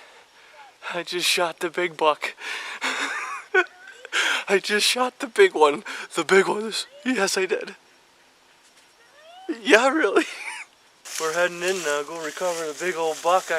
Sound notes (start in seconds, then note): 2.8 laughing; 9.8 chuckling